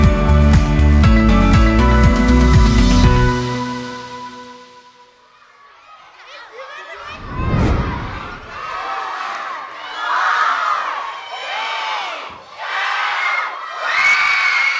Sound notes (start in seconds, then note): 0.0 theme music; 7.3 students excitedly yelling